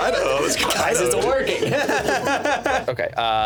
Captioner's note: laughing